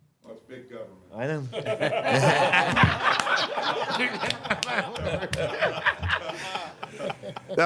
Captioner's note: laughter